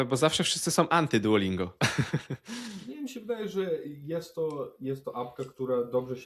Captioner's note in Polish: śmiech